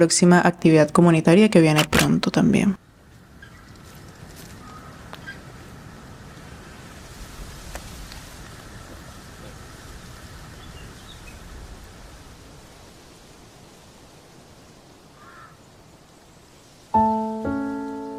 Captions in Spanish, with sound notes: próxima actividad comunitaria que viene pronto también. [BIRDS CHIRPING]